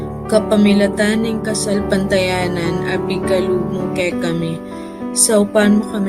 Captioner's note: person speaking in foreign language